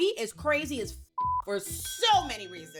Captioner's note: beep